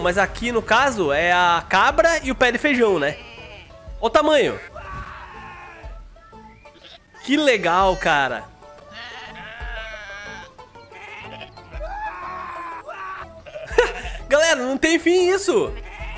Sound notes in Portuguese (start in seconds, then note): 13.4 risos